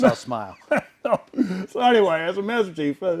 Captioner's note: laughs